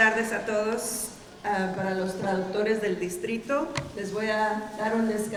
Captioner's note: speaking in Spanish